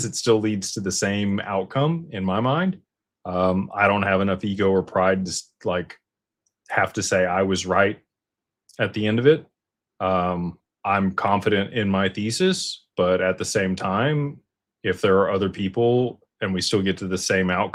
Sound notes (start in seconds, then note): none